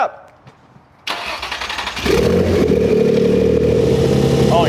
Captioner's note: engine starting